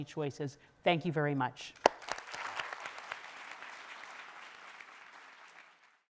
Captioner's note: audience applauding